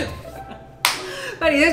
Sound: clapping

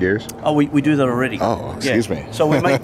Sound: laughs

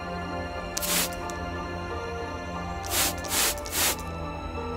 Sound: spraying mist

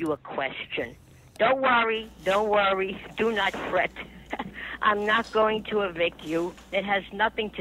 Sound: laughs

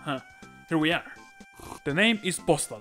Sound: quick Slurp

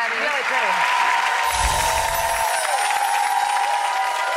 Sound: audience applause

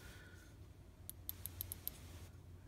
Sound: click click click

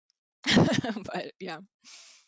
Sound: laughs

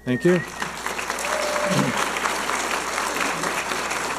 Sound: audience applauding

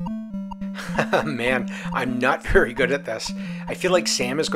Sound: laughs

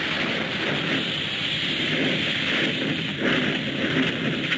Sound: fire whooshing

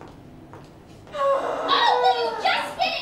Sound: Sarah sighs *even* louder

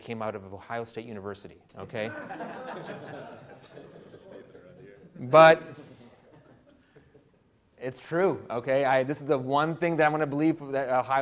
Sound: audience laughter

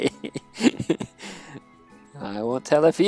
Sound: laughs

